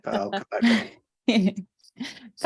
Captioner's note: chuckling